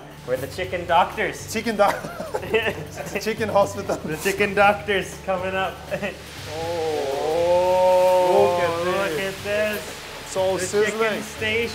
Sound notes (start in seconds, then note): 1.8 laughs; 6.7 excited sighing